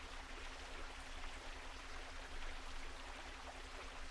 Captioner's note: water gushing